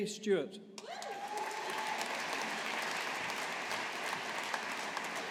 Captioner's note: audience applauding